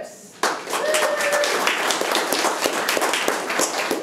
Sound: room applauds

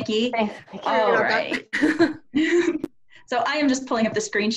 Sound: laughter

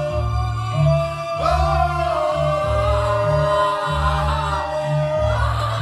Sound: mourning in pain

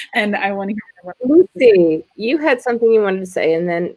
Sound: audio glitches

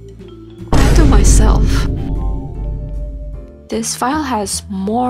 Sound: boom

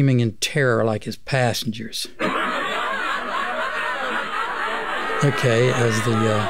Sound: laugh

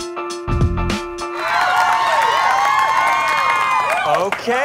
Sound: applause

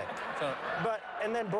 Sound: applause

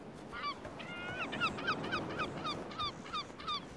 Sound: gulls cawing

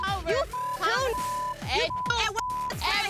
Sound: beep

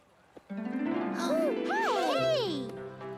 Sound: excited gasps

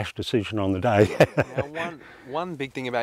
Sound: laughs

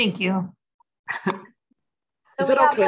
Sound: chuckles

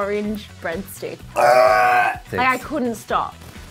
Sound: gagging

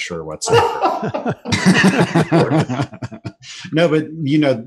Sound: laughter

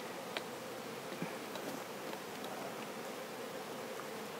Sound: bees buzz

